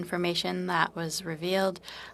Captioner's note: speaking in French